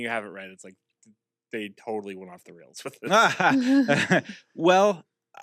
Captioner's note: laughs